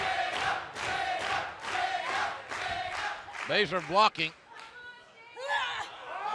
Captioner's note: fans chanting